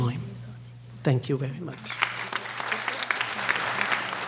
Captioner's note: applause